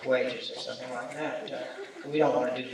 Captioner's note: laughter